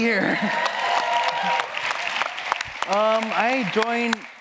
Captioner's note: audience cheering and applauding